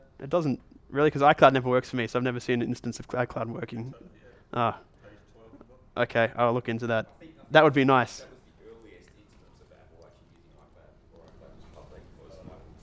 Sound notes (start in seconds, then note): 4.0 voiceover; 8.7 voiceover